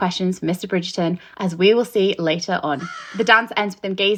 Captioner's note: crow cawing